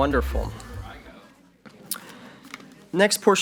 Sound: murmurs

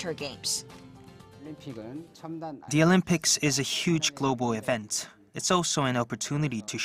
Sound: Korean

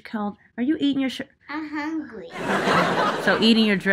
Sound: audience laughs

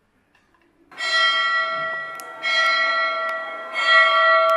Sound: bell rings

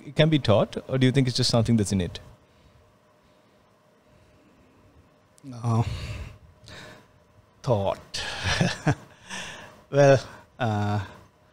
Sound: laughs

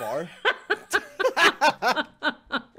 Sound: laughing

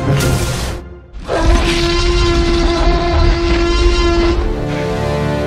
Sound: roar

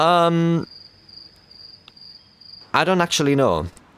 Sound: crickets

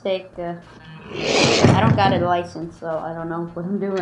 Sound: scrape, bang

